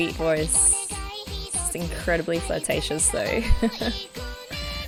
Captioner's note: laughs